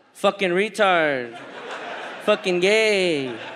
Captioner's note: audience laughs